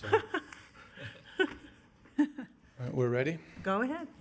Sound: laughter

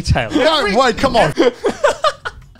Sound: laughter

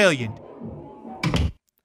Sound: door shuts

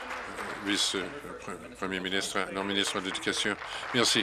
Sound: applause

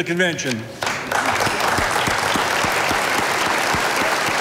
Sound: audience applauding

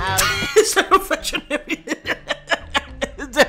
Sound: Dunkey Laughs

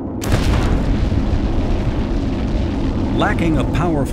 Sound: rocket exploding

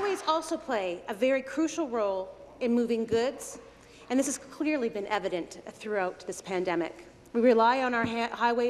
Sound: applause

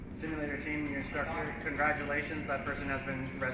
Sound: voiceover

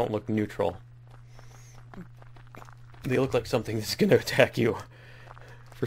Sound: laughs

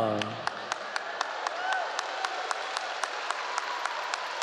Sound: audience cheering

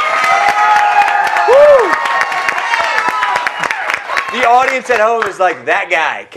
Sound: applause

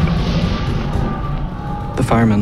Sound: people screaming

